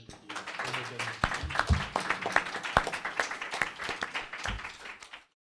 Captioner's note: applause